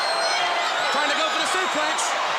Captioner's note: crowd cheering